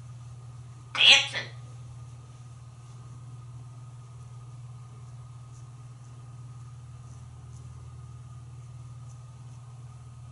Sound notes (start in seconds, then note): none